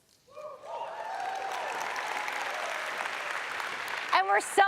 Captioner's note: audience applauds